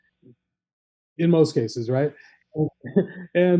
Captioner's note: chuckles